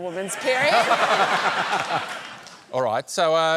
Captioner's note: laughter